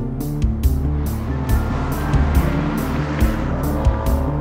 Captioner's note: engine revving